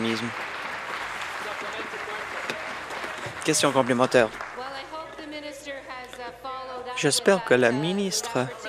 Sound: applause

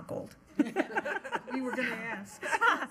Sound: everyone laughing

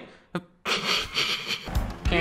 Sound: stifled laugh; giggling

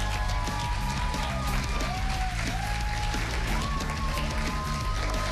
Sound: cheers and applause

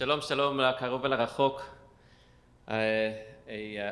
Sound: speaking foreign language

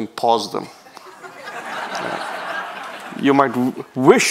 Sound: people laughing

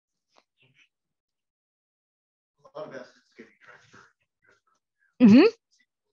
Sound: participant faintly speaking

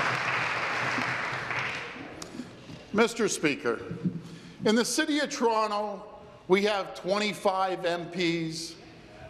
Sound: applause

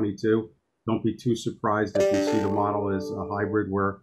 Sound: email alert in background

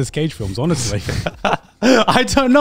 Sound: everyone laughs

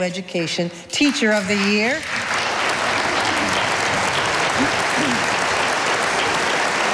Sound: audience applauding

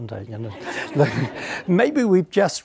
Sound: audience laughing

